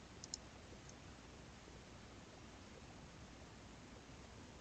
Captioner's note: mouse clicking